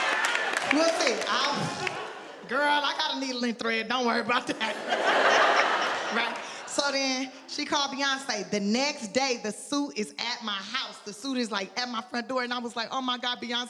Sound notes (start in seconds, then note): 4.5 audience laughs